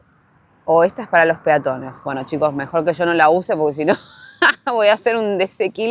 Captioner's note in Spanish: risas